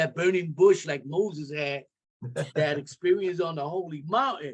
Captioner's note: laughter